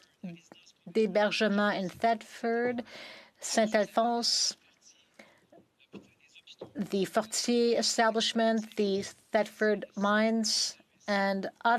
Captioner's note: speaking in French